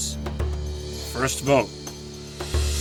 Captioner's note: none